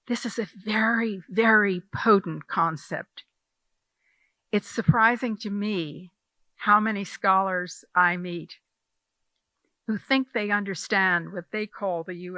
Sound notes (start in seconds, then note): none